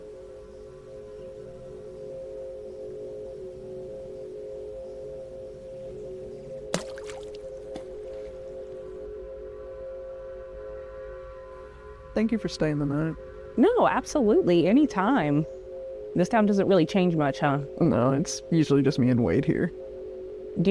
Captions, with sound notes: (water splashes) (intense music) - Thank you for staying the night. - No, absolutely anytime. This town doesn't really change much, huh? - No, it's usually just me and Wade here.